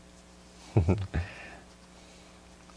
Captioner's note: giggle